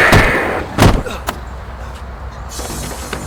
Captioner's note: Night groaning